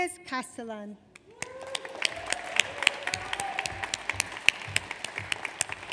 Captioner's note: audience applauds